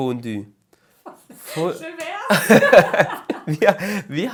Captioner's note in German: Gelächter